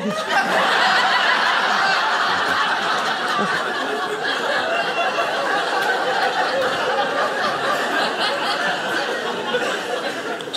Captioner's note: audience laughing